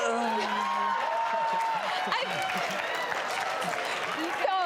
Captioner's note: laughter and cheers